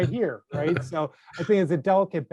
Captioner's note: laughter